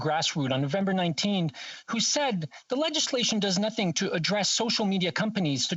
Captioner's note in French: voix de l'interprète